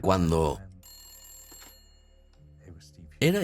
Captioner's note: phone rings